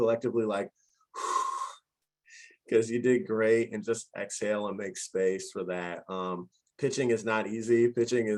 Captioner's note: exhale